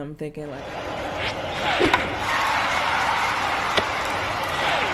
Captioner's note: crowd cheering